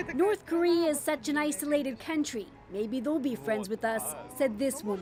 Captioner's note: speaking alternate language